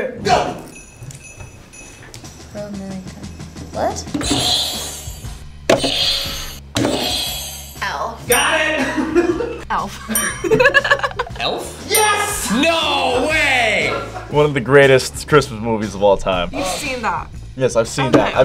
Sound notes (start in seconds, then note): 4.4 buzzer rings; 8.8 laughs